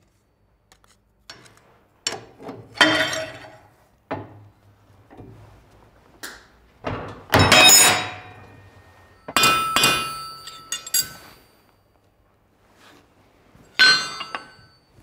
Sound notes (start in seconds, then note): 7.4 clatter